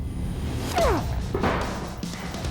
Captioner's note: grunting; intense rock music